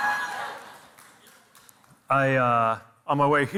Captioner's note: audience cheers